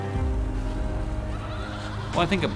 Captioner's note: ominous laughing